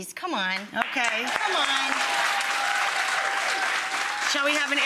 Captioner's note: audience cheering